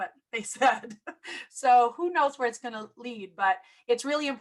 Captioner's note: laughter